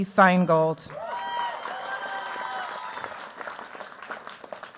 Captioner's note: cheers, applause